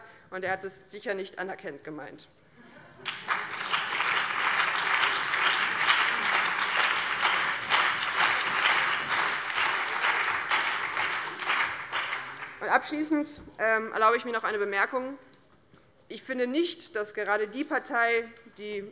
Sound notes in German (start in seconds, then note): 3.0 Beifall BÜNDNIS 90/DIE GRÜNEN, vereinzelt CDU, SPD und DIE LINKE